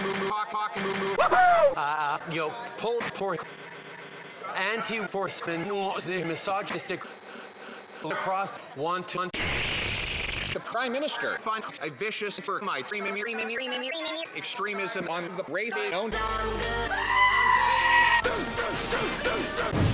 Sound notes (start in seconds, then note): 3.5 breathes rapidly; 7.2 continues breathing; 9.4 slurps loudly; 16.9 screaming sheep sound effect; 19.6 random explosions